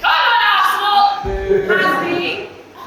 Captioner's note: Scatted boos from Chelsea fans in audience